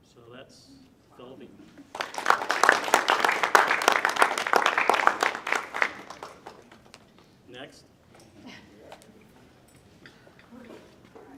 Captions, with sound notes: So that's Phil Levine. (audience clapping) Next.